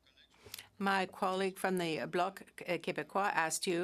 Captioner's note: speaking French